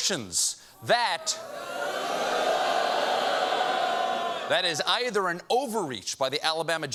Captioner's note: audience booing